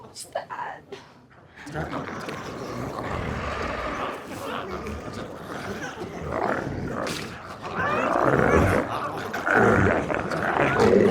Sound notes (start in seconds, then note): 1.9 glowzies growling